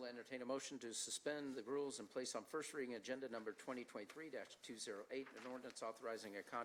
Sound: discussion in the background

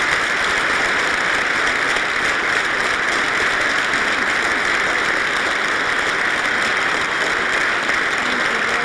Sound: applause

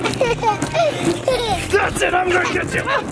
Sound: laughs

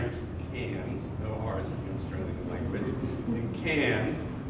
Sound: australian accent

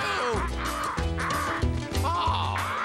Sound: cawing

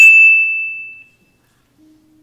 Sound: a timer dings

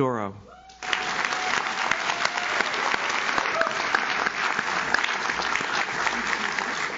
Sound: audience cheers; audience claps

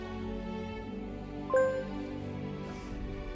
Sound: computer beeps

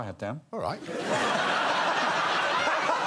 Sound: crowd laughs

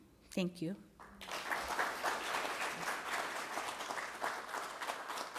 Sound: applause

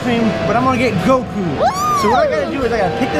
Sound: squeels

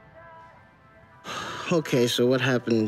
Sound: sigh

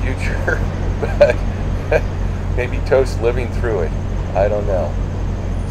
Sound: chuckling

